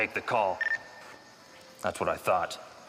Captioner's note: device beeps